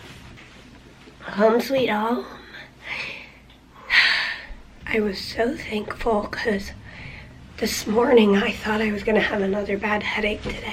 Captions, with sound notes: Home sweet home! [heavy sigh] I was so thankful cuz this morning I thought I was gonna have another bad headache today.